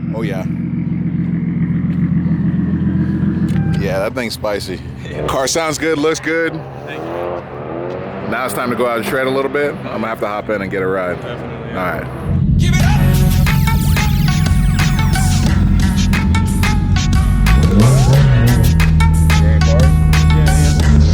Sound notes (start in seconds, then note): 0.0 engine revs; 1.3 engine idling; 13.7 hip hop music; 17.7 engine revs